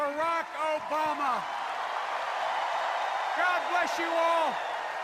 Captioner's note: extended cheers and applause